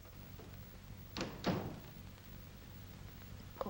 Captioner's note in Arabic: يغلق الباب